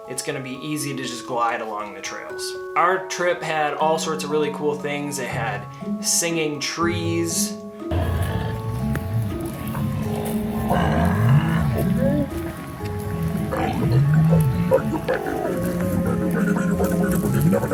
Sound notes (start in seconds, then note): 7.8 spooky music; 7.9 voices growling